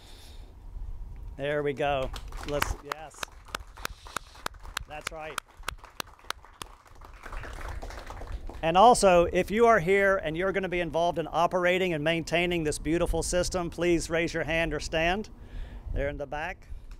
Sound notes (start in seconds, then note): 2.0 and audience clap; 2.6 audience claps